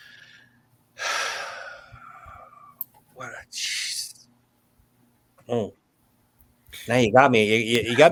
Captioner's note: sighs